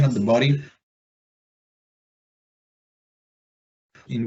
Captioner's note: missing audio